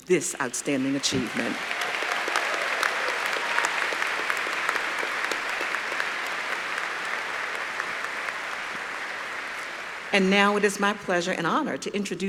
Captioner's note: applause